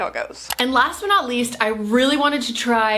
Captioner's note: mouse clicking